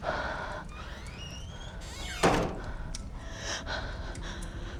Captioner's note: door creaks open; door creaks shut; Kira catching breath